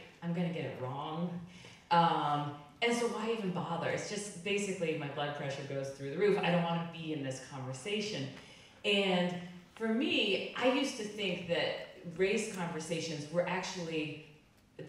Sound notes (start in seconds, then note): none